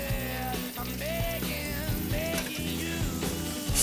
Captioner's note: sizzle